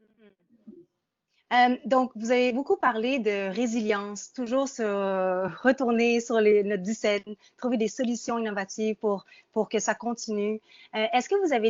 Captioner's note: speaking in French